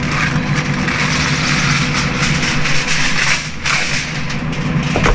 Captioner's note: foil crinkles